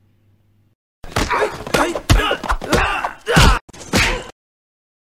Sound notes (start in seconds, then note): 1.1 people fighting and grunting